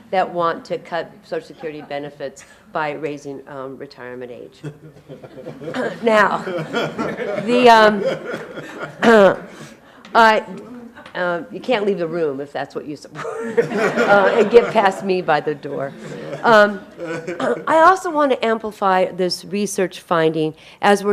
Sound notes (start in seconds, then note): 4.6 audience laughing; 6.8 clears throat; 13.2 everybody laughing